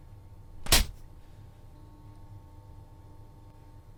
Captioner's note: hand slaps